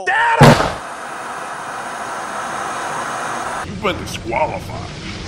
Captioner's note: TV static roars